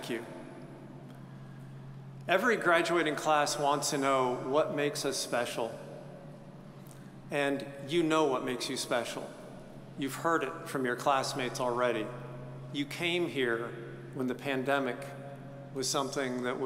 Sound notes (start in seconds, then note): none